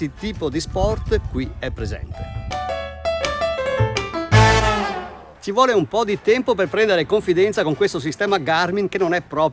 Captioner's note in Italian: Applauso